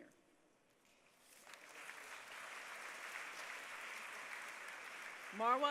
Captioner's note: applause